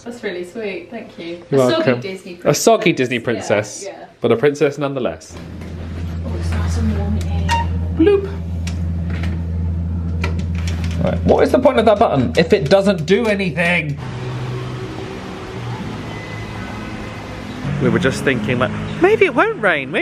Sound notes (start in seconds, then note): 7.2 elevator button beeps; 7.4 mimics beep